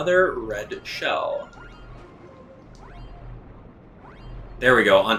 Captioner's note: gaming sounds; instrumental music